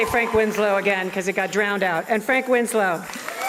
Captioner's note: applause and cheers